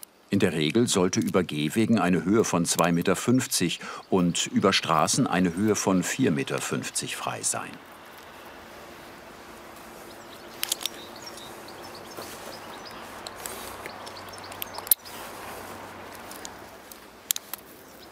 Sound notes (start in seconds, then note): 10.0 click, birdsong; 14.5 click